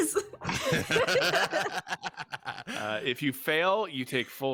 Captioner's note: group laughing